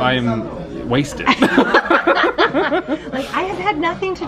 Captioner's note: pair laughing